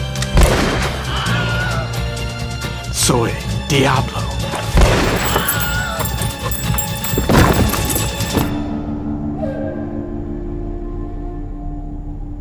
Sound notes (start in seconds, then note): 0.3 gun fires; 1.0 man screaming; 2.8 speaking in foreign language; 4.7 gun fires; 5.2 man screaming; 8.4 gentle music